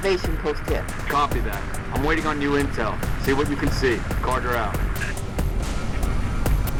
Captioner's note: radio